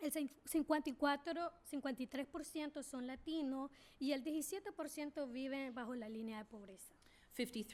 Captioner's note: speaking spanish